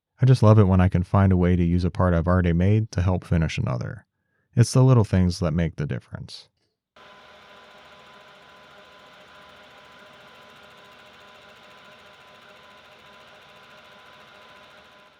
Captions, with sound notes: I just love it when I can find a way to use a part I've already made to help finish another. It's the little things that make the difference. (machine whirring)